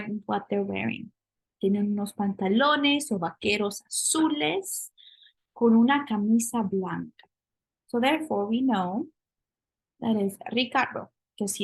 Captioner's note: spanish